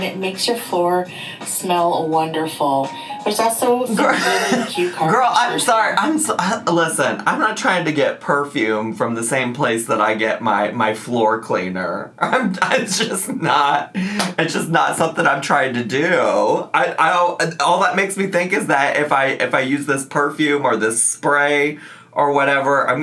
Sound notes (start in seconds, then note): 4.0 laughs